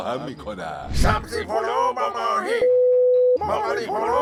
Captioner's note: beep